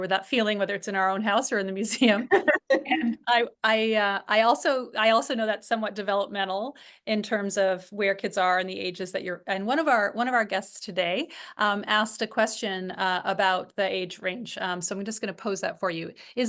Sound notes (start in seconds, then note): 2.2 laugh